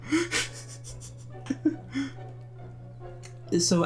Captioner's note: laughs